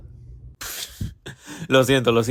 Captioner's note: laughs